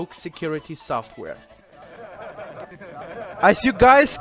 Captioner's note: people Laughing